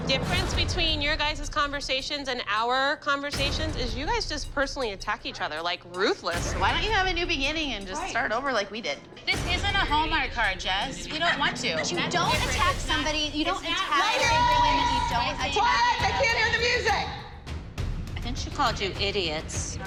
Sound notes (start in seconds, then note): 11.7 women clamoring